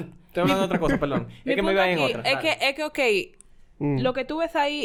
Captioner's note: lauhs